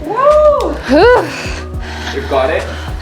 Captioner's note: sighs